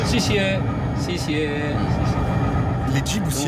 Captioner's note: conductor speaking foreign language